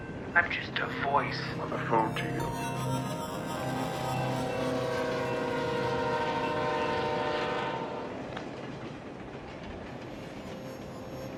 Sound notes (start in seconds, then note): 0.9 garbles and glitches; 3.4 passing train horn